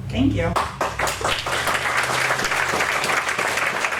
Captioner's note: applause